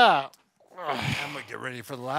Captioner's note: groans